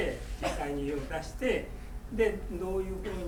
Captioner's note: coughing